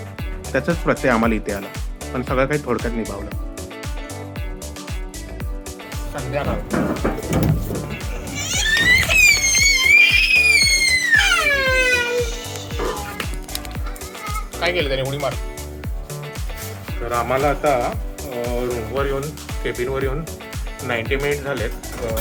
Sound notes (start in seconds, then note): 8.0 crying